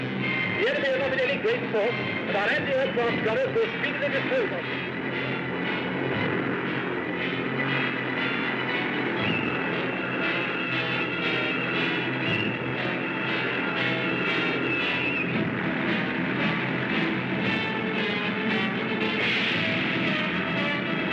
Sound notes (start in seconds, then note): 3.4 dramatic music; 3.4 engines whirring